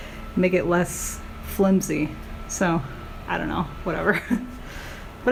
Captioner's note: laughing